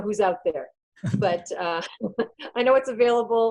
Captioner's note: laughter